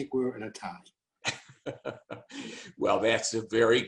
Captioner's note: giggling lightly